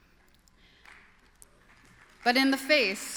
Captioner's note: applause